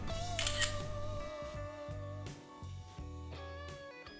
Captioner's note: camera clicks